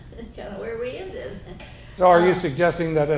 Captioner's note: chuckles